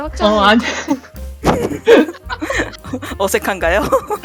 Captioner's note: laugh